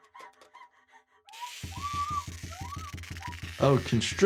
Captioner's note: cub screams